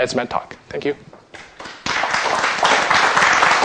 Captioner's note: applause